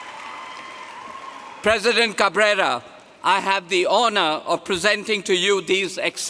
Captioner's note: applause